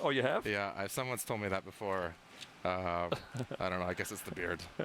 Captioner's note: laughter